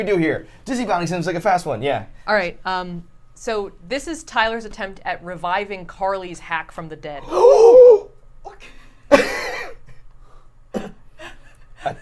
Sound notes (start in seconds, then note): 7.2 everyone gasps loudly; 9.0 laughs